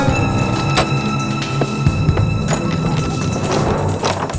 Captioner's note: lock clicking